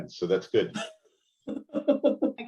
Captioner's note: laughter